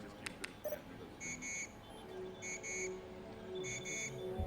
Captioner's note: machine beeps